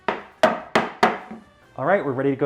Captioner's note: knocking on wood